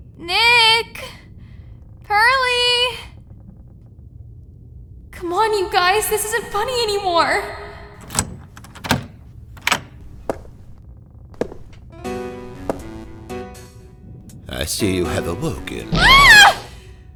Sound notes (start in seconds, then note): 7.7 lock unlocking; 11.3 footsteps